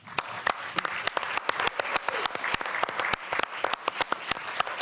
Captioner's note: applause